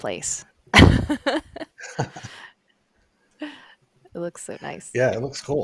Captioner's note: laughter